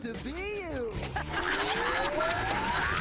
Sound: laughs

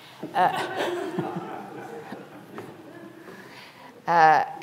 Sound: audience laughing

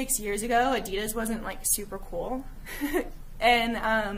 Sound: giggling

